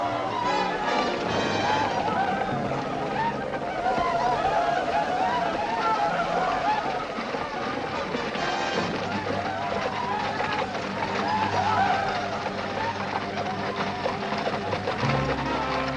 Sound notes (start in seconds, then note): 0.6 war cries